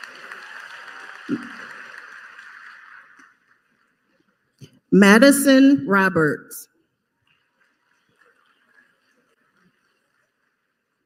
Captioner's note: applause; applause